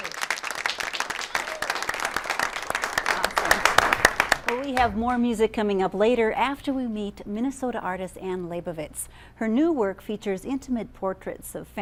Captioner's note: applause